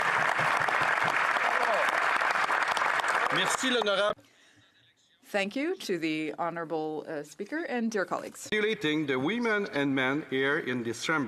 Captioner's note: applause